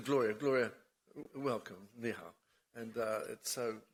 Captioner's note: speaks in foreign language